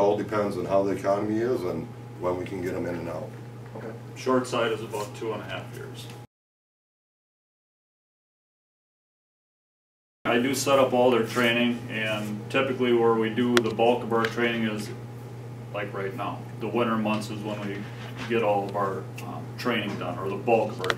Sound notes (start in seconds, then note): 6.2 silence